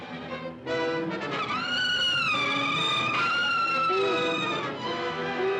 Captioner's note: suspenseful music; orangutan shrieks; suspenseful music